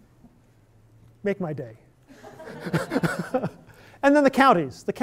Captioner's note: laughter